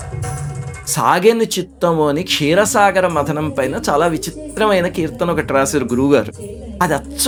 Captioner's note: churning of the ocean